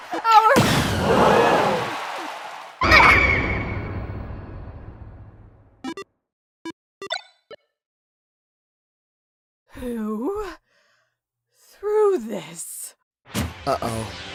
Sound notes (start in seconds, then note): 0.9 crowd gasp